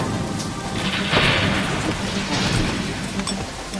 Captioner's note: thunder